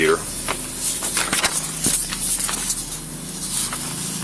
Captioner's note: papers shuffle